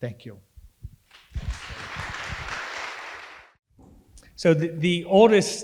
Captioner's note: audience applauding